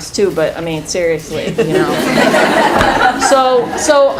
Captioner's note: laughing